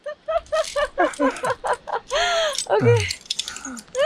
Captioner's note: laughing